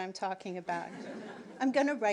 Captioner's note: audience laughing